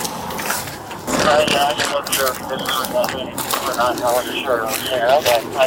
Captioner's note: radio chatter